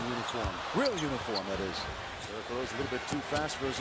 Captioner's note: crowd roars